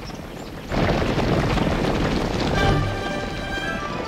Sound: thundering bison hooves

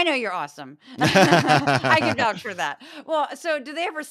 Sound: laugh

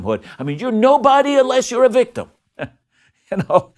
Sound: laughs

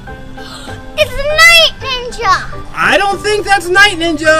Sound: gasps

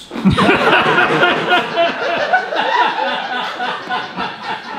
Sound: audience laughing

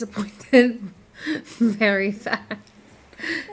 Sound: laughing

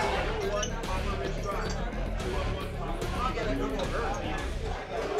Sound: patrons chattering

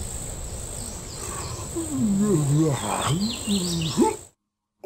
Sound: yawns loudly

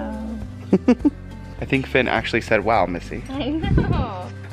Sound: laughter

